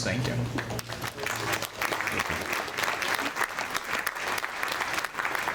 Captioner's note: audience applauding